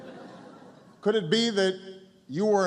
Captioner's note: laughter